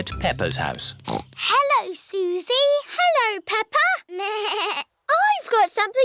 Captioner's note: snorts; bleats